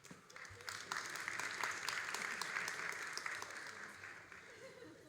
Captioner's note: all applauding